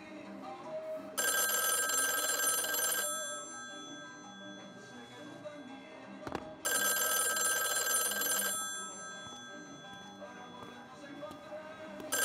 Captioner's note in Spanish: suena el teléfono